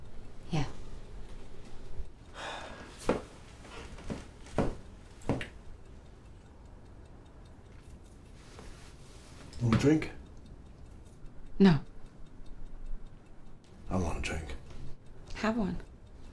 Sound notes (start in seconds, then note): 2.3 sighs